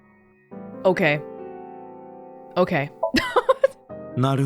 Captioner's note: chuckles